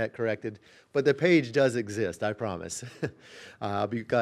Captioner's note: laughing